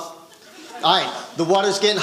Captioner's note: audience laughing